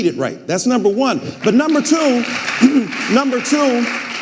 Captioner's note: audience applauding